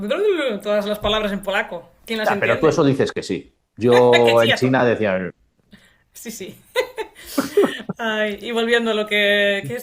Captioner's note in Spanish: risas